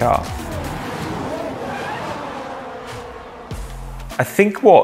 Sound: engines revving

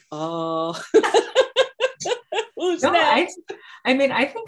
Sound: laughing

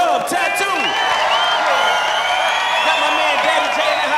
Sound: cheers and applause

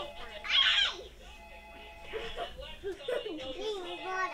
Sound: laughing

